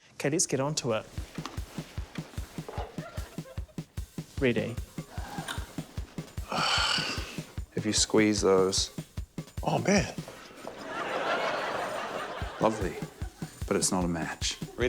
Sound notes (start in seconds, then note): 6.5 sighs; 10.4 laughter